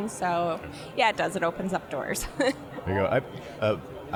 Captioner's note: chuckling